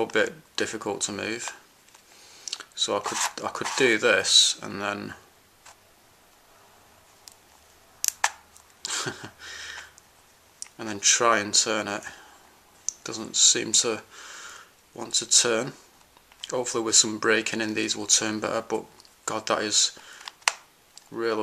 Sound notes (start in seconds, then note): 5.3 laughs